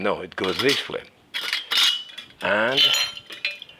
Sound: food mill clinking

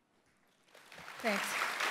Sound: applause

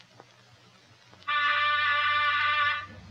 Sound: buzzer

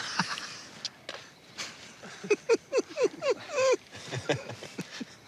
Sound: laughs

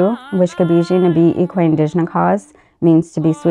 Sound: speaks Ojibwe language; speaks Ojibwe language

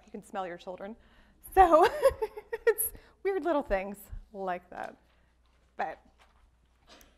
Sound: laughs

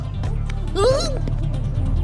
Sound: yelps

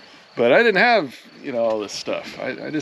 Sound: chuckling

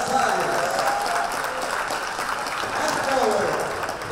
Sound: applause

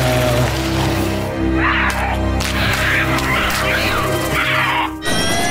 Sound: screeching

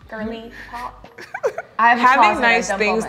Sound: chuckles

